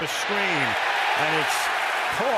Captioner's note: cheering